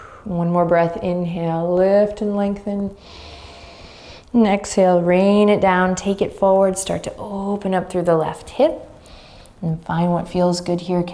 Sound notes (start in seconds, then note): 3.0 inhaling deeply